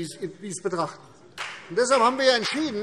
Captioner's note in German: Vereinzelter Beifall CDU und BÜNDNIS 90/DIE GRÜNEN